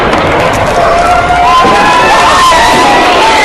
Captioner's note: people cheering